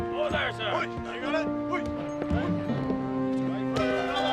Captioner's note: men shouting